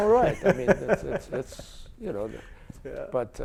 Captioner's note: chuckles